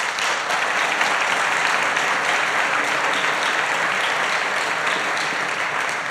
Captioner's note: applause